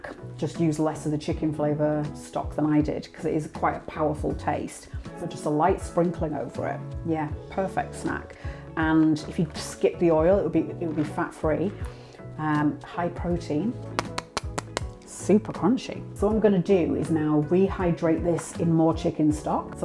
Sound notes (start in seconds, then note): 13.8 tapping